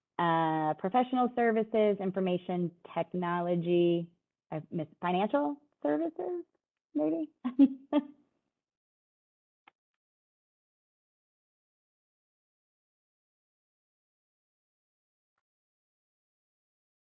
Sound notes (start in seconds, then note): 11.7 laughter